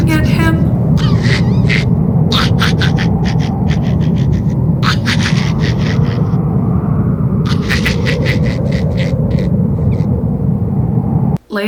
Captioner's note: baby cackles